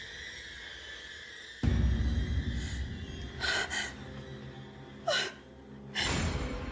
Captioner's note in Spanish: sollozos